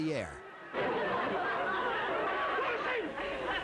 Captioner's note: laughter